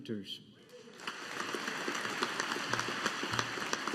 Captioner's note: audience applauding